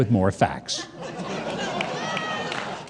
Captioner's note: laughing and clapping